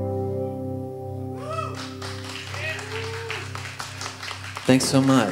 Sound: audience cheering

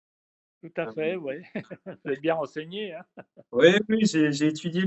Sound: laughs

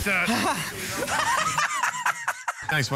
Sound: Joe laughs

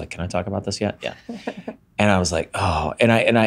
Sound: chuckles

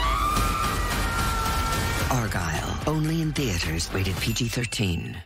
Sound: screams

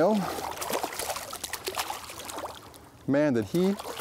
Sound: fish splashing

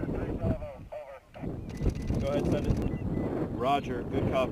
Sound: incoming radio communication

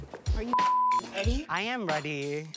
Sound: beep sound

